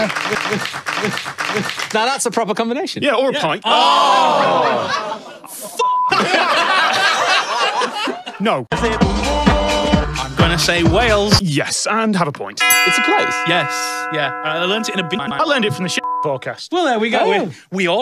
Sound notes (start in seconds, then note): 3.9 groan in disappointment; 11.6 music abruptly stops; 12.6 bell dong